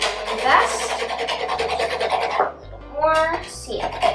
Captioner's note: scrapping sounds